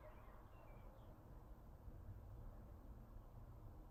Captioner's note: wind